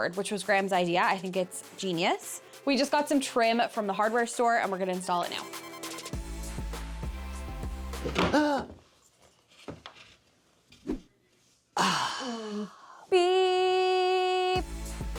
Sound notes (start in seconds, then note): 6.2 upbeat music; 8.3 gasps